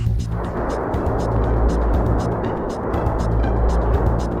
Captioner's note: volcano rumbling